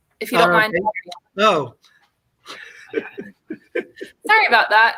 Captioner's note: laughter